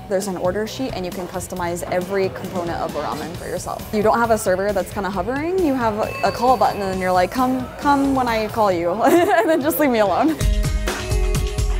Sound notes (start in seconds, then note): 9.0 laughs